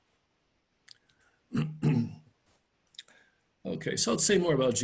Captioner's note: clears throat